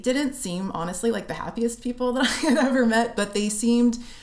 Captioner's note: laughter